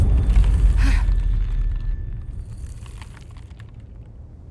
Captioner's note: gasping